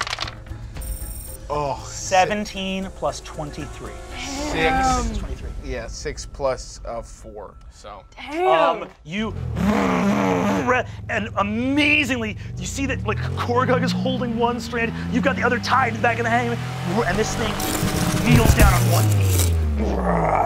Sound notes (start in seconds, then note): 0.0 dice clatter; 9.9 mimics revving; 19.7 roars